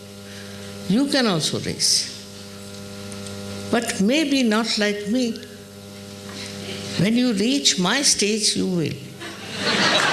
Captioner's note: applause and laughter